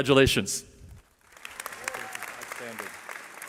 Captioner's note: applause